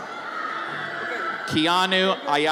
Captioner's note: audience cheers